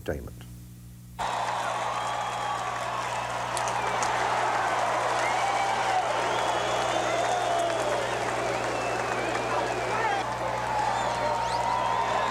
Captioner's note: crowd cheering